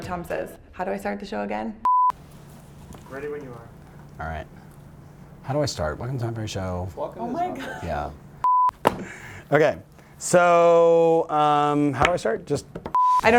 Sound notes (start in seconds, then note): 1.8 beep; 7.5 laughter; 8.2 beeps; 12.9 beeps